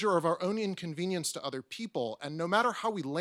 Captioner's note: none